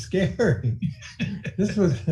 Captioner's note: laughing